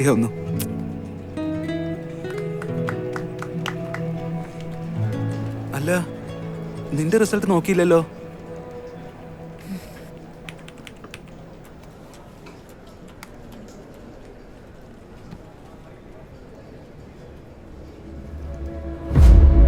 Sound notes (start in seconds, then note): 2.0 cheering loudly